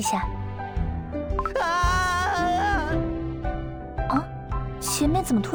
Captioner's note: people screaming outside